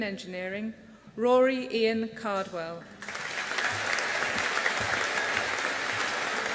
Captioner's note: audience applauding